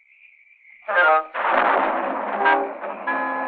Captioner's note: thunder rumbling